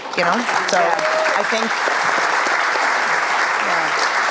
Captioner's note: applause